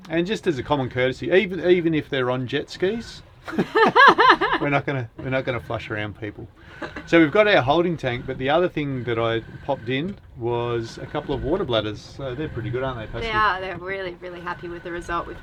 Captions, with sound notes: and just as a common courtesy. Even if they're on jet skis (laughs), we're not going to flush around people. So we've got our holding tank but the other thing that I popped in was a couple of water bladders. So they're pretty good, aren't they Pascy? They are, we're really, really happy with the result.